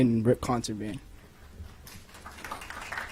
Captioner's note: applause